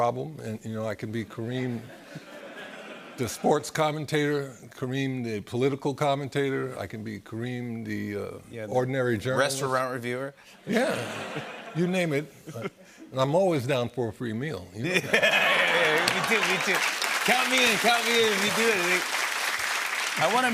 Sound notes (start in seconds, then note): 14.9 laughter; 18.4 applause